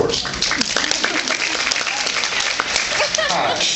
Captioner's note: applauds